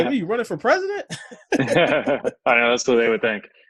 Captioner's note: laughs